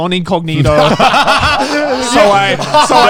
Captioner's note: laughing